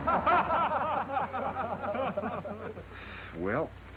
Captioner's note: men laughing